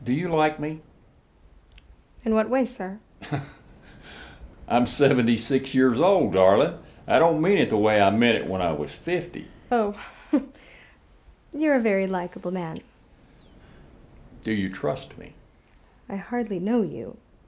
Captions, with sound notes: Do you like me? - In what way, sir? (chuckles) - I'm 76 years old, darling. I don't mean it the way I meant it when I was 50. - Oh, you're a very likable man. - Do you trust me? - I hardly know you.